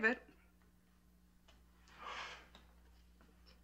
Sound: sighing

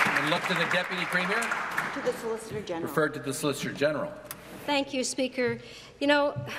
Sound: applause

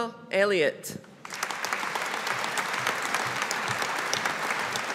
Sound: audience applauding

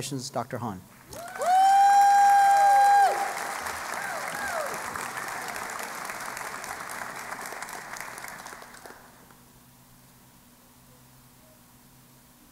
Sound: cheering and Applause

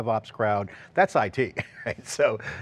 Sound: laughs

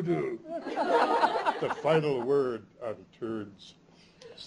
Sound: laughter

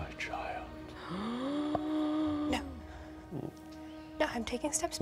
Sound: player gasps

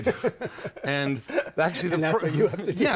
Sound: laughter

